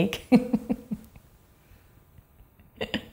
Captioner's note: laughs